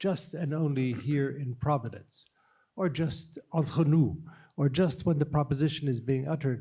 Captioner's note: non-english